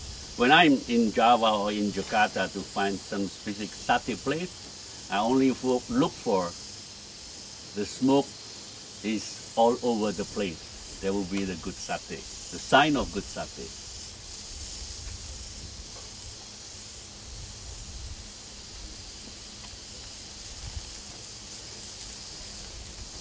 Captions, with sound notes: When I'm in Java or in Jakarta to find some specific Sate place, I only look for the smoke is all over the place. There will be the good Sate. The sign of good Sate. [Sizzling sounds]